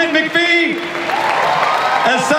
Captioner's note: audience cheers